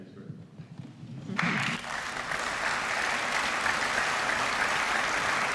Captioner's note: applause